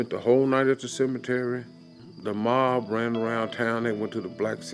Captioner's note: insects buzzing